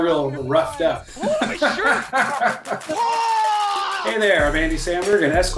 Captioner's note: Andy laughs